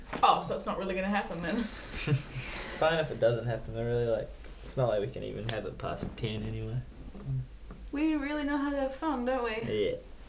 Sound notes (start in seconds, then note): 1.6 laughs